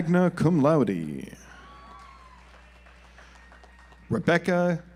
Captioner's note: audience applauds